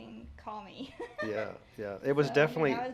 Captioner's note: laughs